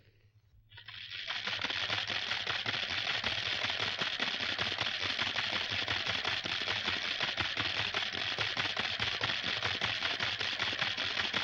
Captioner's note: telegram machines chattering